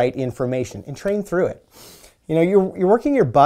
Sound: inhaling

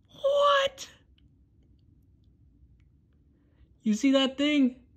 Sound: awed silence

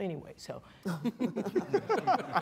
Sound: all laughing

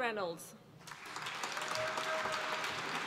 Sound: applause

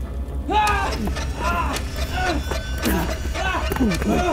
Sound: struggling grunts

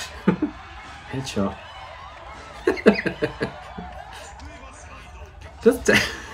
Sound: cackles at misfortune

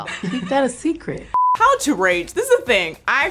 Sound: screen beeping

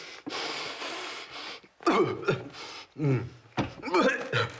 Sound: breathing heavily; coughing

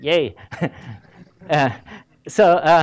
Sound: laughs

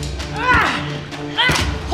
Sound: grunts of exertion

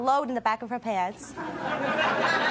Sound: audience laughs

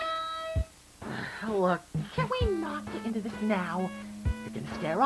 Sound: sigh

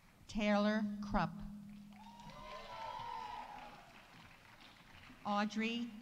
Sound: audience cheering; audience applauding

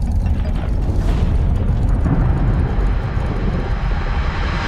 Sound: thundering rolling

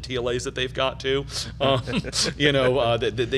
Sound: laughs

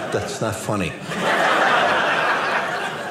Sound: audience laughing

